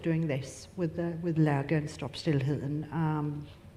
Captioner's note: speaks in foreign language